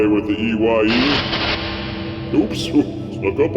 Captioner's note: electric zaps